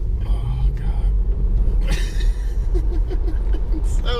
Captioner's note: laughing